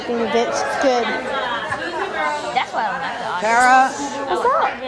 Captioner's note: overlapping chatter